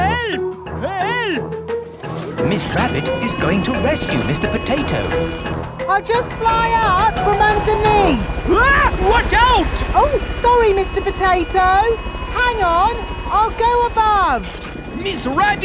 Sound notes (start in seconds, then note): 8.9 screams